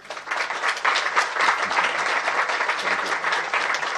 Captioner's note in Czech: potlesk